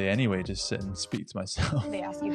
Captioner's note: chuckles